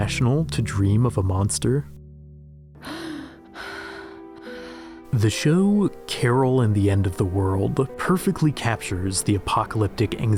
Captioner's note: Carol Gasps